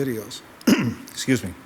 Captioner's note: clears throat